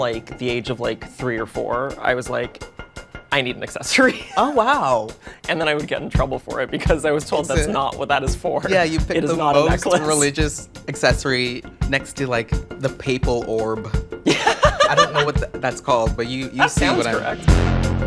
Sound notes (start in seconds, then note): 14.2 laughs